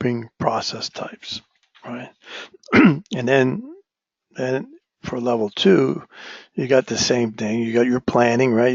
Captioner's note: cough